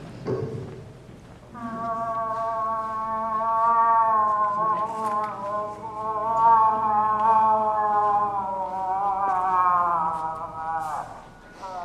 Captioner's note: moose call